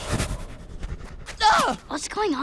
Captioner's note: grunting